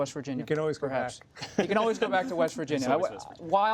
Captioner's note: laughter